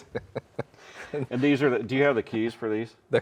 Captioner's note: both laughing